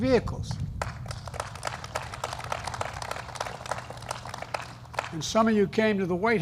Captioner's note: applause